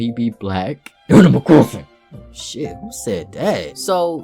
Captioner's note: grunts “animal crossing”